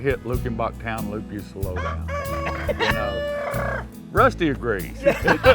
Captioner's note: rooster Crows